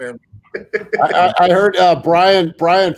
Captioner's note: laughs